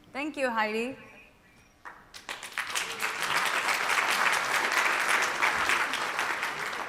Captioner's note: applause